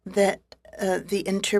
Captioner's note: speaking French